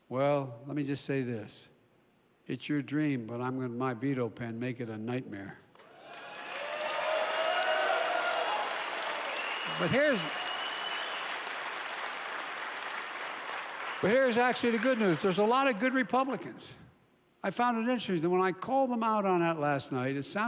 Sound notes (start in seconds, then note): 6.1 applause